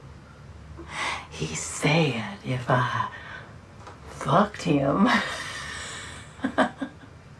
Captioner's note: laughs